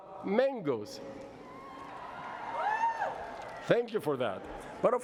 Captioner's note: cheering